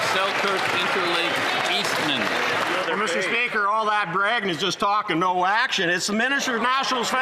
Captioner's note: some Applause